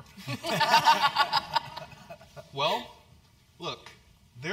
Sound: laugh

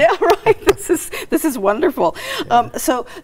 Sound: laughing

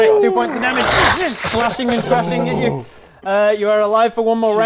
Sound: krssch krssh

